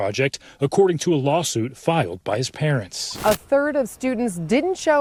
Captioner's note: static